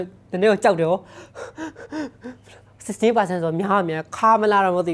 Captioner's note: gasps